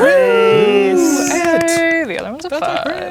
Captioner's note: players celebrating; imitating alarm sounds